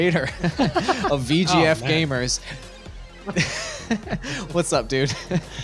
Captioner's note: all laughing; laughing